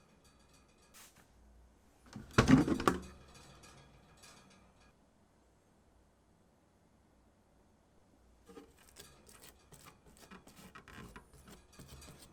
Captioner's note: folding